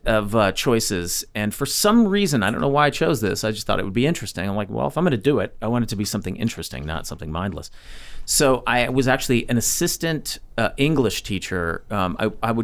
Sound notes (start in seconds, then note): none